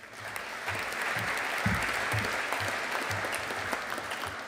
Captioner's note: audience applauding